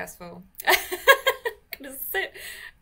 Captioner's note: laughs